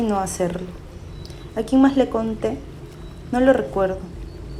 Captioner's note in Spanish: sonidos de agua, persona manejando coche y voz off femenina #3